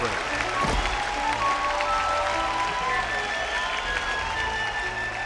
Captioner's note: ਭੀੜ ਤਾੜੀਆਂ ਮਾਰਦੀ ਹੈ